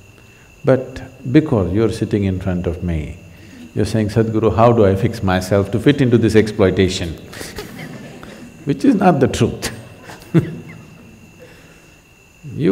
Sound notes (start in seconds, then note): 7.3 laughter; 9.5 laughs